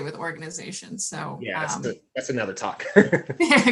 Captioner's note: laughing